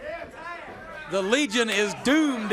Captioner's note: crowd chatter